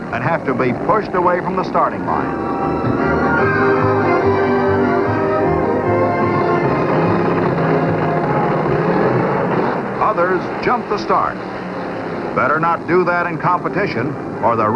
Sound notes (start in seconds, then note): 3.9 lighthearted music; 7.6 engines revving